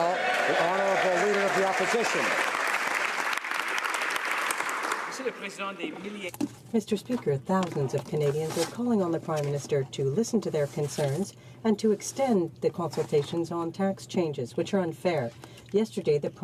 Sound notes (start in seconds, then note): 1.7 speaking French